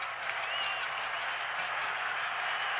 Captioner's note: man whistling